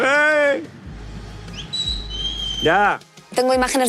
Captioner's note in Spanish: Silbido